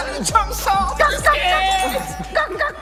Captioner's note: sound effects